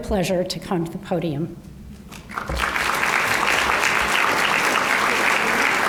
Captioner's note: applause